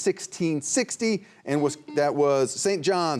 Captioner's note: buzzer buzzing